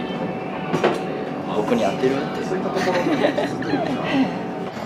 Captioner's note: laughs